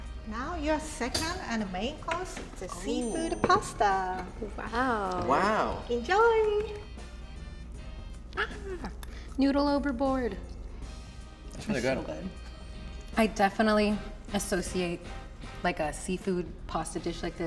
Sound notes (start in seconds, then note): 8.3 laughs